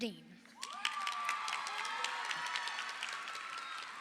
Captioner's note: crowd cheers